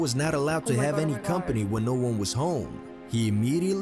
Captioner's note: voice-over